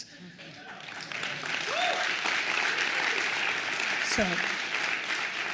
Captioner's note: attendees applauds